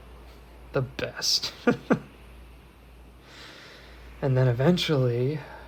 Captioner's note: Elias laughs